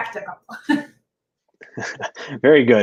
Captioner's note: laughter